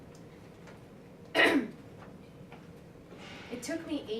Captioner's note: clears throat